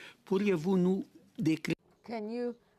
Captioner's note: speaking French